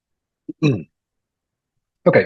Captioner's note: clears throat